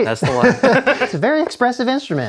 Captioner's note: laughs